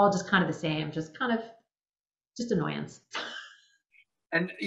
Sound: laughing

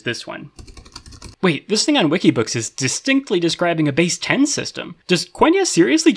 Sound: typing sounds

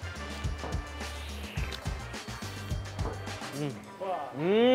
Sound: slurping

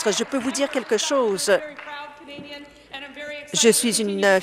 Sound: applause

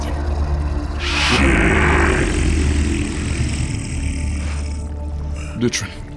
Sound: echoing

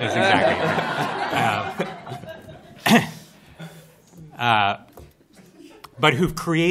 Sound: laughter

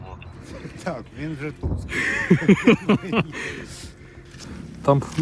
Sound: laughter

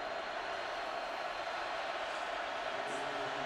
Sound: crowd cheering

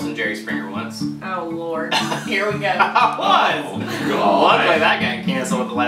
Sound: laughs

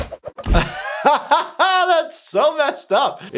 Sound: laughs

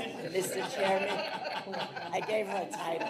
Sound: trustees laugh

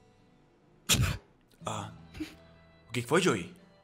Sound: laughs

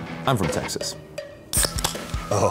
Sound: can opening

